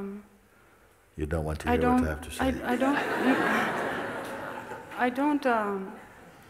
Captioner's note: laughter